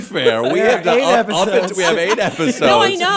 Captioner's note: laughter